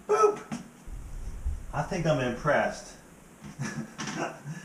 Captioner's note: laughs